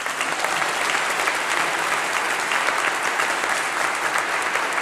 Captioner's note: applause